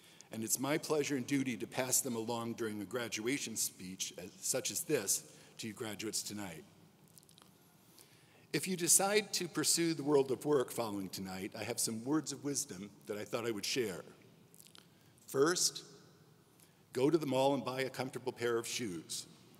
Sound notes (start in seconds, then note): none